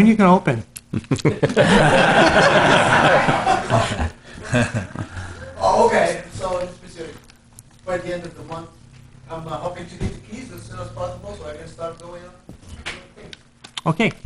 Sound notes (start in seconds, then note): 0.9 laughing